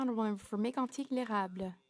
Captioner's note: speaking French